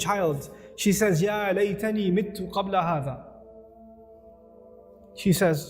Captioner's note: Arabic